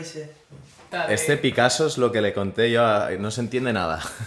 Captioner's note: in spanish